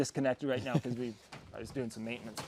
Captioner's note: man laughing